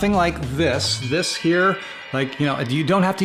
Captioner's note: wind chimes